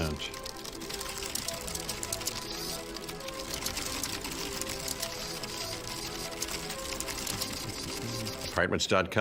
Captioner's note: rapid typing and clicking